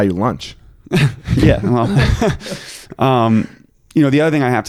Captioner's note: chuckling